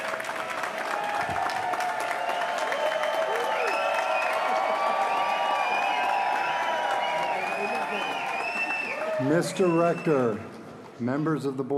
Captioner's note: applause